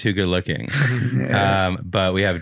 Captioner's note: laughing